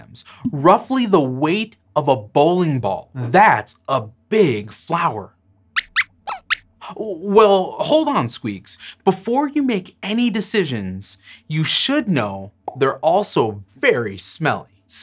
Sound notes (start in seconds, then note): 6.2 squeaks squeaks